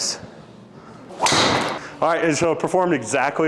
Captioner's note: golf club whacks